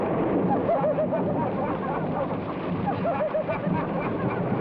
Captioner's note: people laugh